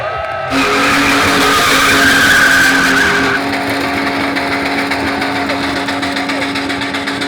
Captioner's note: crowd cheering; engine roaring; tires squealing